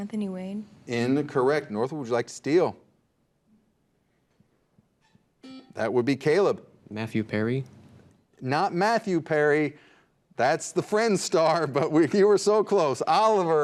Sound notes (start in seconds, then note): 5.4 buzzer beeps